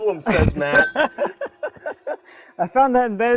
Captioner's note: laughing